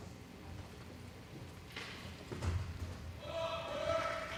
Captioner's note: audience applauding